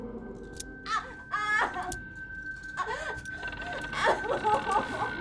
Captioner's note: Heather crying